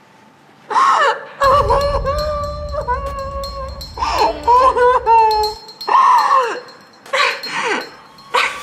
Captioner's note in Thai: เสียงร้องไห้